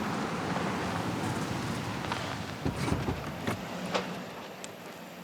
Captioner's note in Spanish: ruido del motor